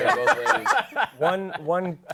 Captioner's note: laughter